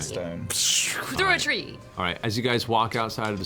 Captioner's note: repeats piercing spell noise